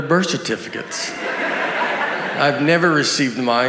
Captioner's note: audience laughs